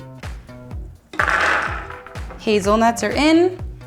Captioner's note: nuts clank